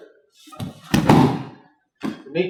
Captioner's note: thud